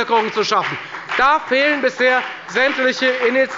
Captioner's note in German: Beifall bei der FDP